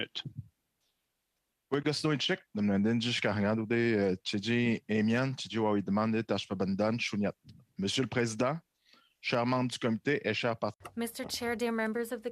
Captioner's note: speaking French